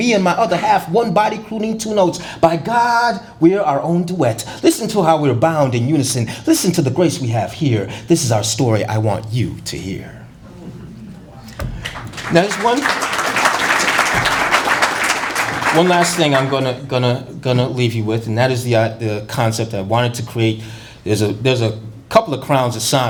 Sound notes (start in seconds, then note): 11.8 applause